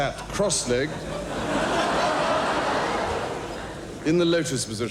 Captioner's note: audience laughing